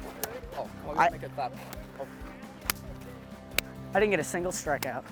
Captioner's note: hand clapping